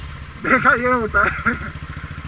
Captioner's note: laughing